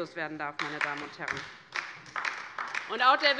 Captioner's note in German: Beifall bei der LINKEN